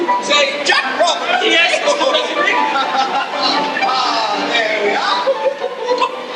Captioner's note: giddy laughter